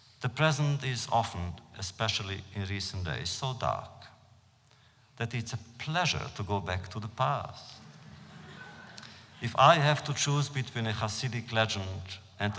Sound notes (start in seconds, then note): 7.7 laughter